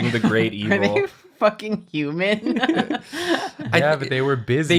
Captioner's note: laughs